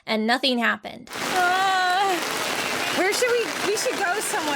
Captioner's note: groans